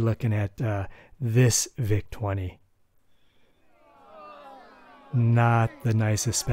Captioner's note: crowd booing